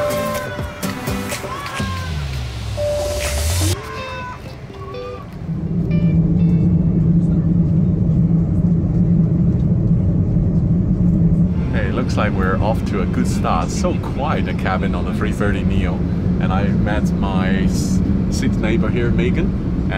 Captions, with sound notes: (plane dinging) (engine revving) Hey, looks like we're off to a good start. So quiet the cabin on the 330neo. And I met my seat neighbour here, Megan,